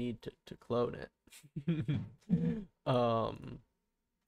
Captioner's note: laughs